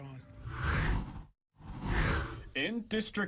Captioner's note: air whooshes